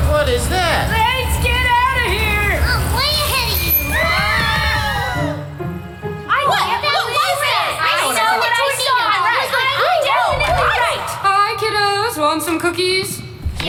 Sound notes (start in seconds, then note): 3.3 everyone screaming